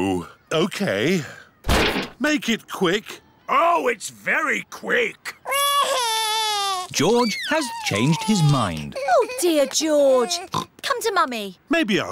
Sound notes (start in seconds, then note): 5.4 crying; 10.4 oinks